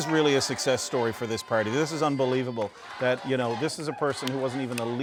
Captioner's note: cheers and Applause